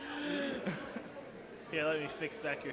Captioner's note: laughing